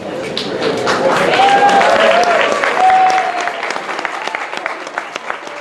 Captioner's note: clapping; cheering